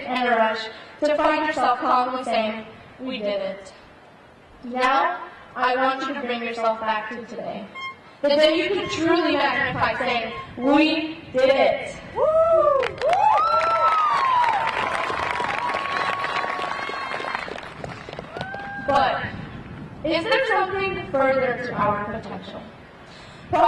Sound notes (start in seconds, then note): 12.2 graduate cheering; 12.7 crowd applauding